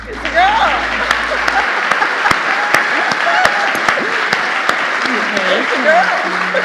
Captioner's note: audience applauding; laughing; audience applauding